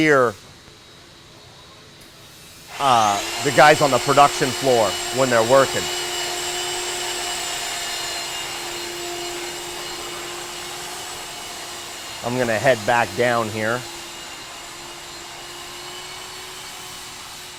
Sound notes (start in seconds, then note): 0.3 buzzing; 6.3 machine whirring; 15.1 whirring